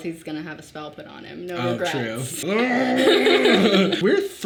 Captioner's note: laughs; growling